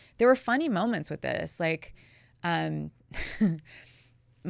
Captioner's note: chuckling